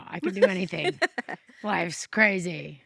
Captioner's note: chuckles